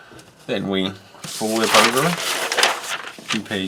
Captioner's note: paper rustling